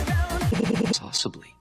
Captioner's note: stutters